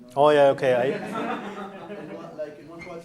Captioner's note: laughter